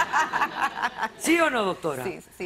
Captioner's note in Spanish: risas